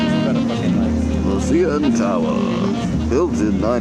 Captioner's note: mock British announcer voice